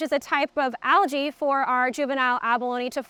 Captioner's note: none